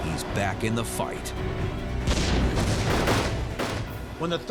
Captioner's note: sounds of battle